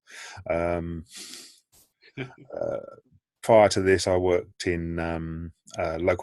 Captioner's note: laughing